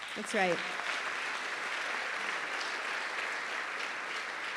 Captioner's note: applause